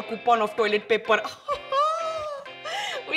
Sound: laughs

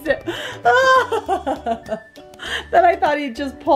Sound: laughs dramatically

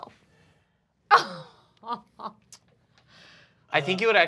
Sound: laughing

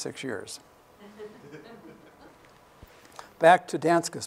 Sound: laughter

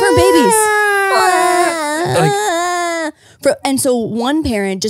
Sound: both impersonating baby crying

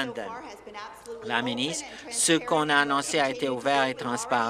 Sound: applause

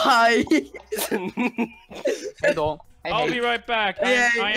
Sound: chuckles

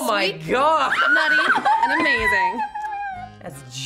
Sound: screams

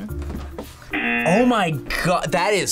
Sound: buzzer rings

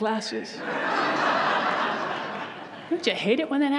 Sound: audience laughs

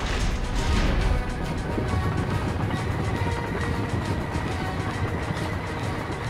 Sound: rumbling

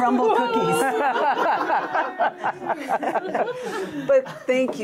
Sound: all laughing

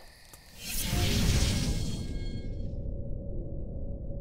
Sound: whooshing

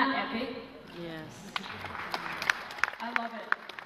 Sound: applause

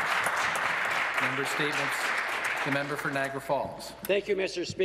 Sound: some applause

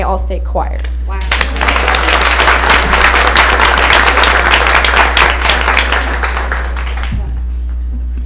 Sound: applause

